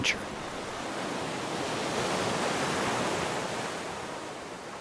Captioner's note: waves crashing